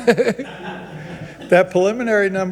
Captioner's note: people chuckle